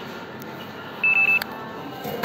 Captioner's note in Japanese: 交通系電子マネーの決済音